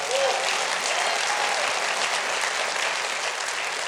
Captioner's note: applause